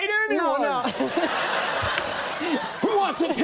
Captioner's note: Michael and audience laugh